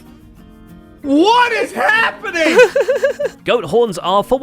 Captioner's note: laughs